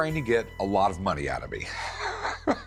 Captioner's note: laughs